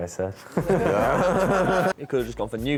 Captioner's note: laughter